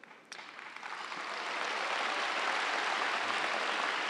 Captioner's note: audience applauds